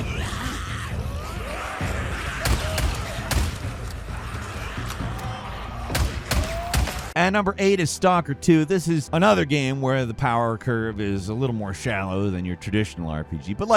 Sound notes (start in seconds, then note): 2.4 gun blasting; 3.2 gun cocking; 5.9 gun blasting